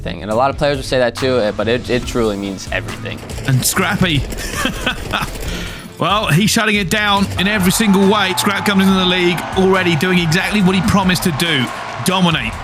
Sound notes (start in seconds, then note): 3.3 laughs